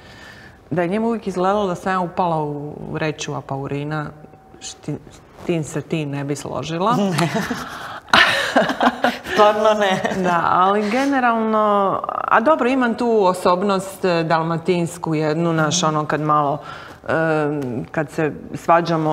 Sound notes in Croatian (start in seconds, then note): 7.0 smijeh; 16.5 smijeh